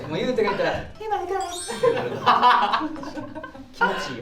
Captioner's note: sparkle sound effect